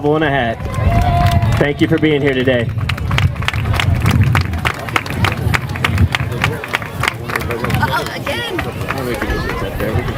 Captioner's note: applause